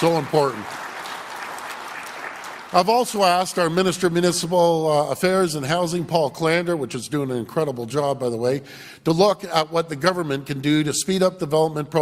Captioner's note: applause